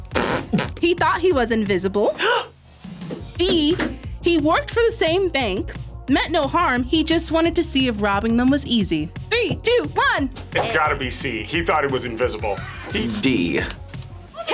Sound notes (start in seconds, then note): 2.3 gasps